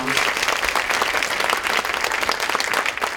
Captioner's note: clapping